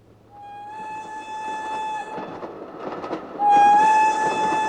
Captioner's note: train Whistle Blowing